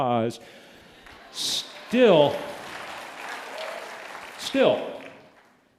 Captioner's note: applause